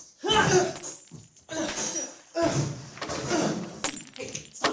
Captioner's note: banging and cracking sound